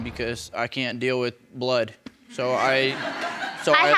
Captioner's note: audience laughing